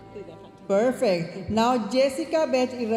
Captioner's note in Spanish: hablando en inglés